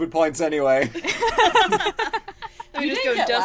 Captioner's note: laughter